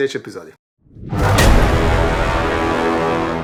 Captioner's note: roars